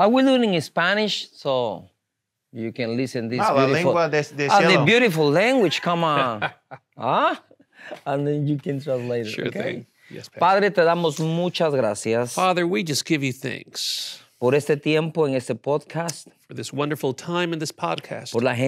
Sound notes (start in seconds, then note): 3.7 speaking in Spanish; 11.1 speaking in Spanish; 14.1 speaking in Spanish; 18.5 speaking in Spanish